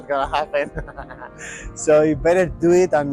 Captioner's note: laughter